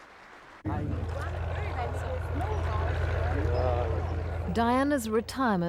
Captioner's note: indistinct chatters